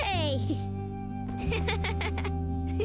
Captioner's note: laughter; laughs